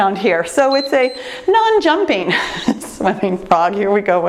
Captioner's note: timer beeps